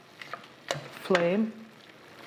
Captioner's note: sizzling sounds